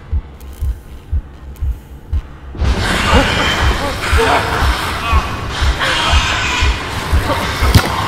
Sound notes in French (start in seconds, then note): 3.0 Le monstre hurle